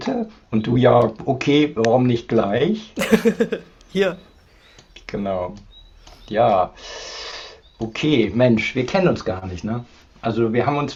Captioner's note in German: gelächter